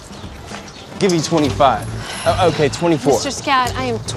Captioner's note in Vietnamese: thở dài